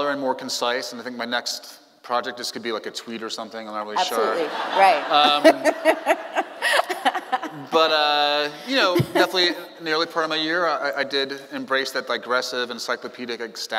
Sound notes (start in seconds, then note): 4.0 audience Laughing; 6.7 laughing